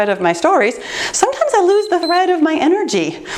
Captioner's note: timer beeps